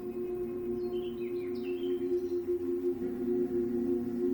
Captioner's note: birds chirping